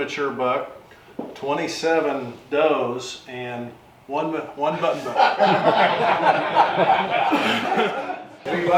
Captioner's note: laughter